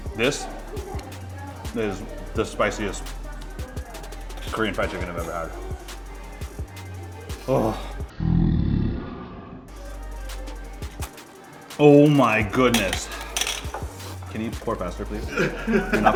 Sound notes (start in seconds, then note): 7.4 sighing; 8.1 growling; 14.9 laughing